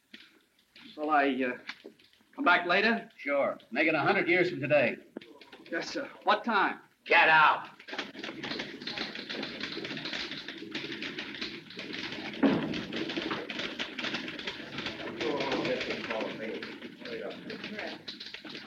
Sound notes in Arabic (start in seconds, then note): 8.3 نقرات على مفاتيح الآلة الكاتبة; 14.9 الناس يتحادثون